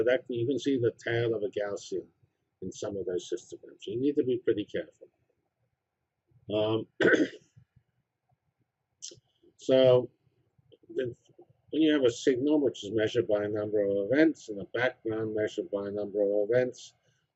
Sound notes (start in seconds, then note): 6.9 cough